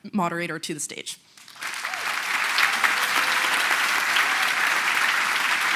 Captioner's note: applause